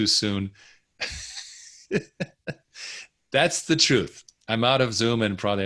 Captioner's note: chuckling